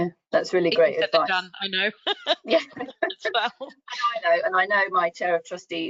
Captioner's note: laughs